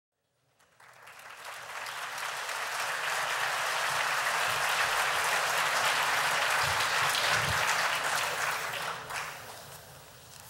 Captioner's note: applause